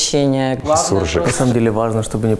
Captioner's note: mixed Russian-Ukrainian dialect